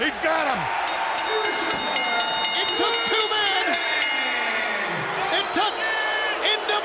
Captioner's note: bell rings